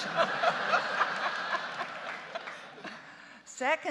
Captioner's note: justices and audience laughing